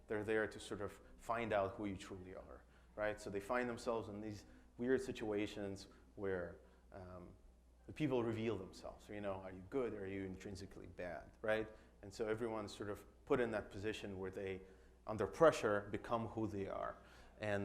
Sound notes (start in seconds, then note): none